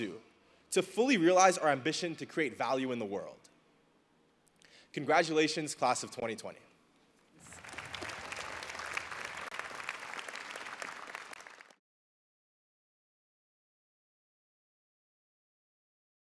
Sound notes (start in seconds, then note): 7.4 audience applauding